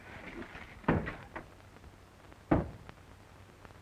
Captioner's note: knocking